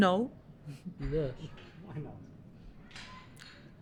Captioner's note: voiceover